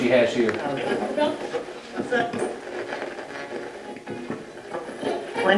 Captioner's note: radio channel changing